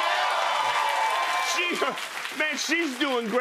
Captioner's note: cheers and applause